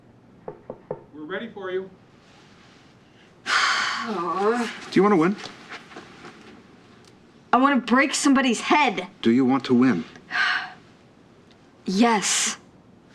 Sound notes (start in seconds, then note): 0.4 knock on door; 3.0 exhales; 10.4 sighs